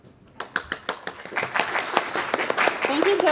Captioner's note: audience applause